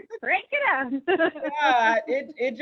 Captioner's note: laughing